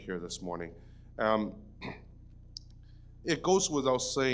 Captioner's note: clears throat